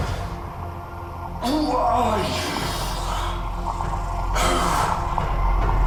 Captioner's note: straining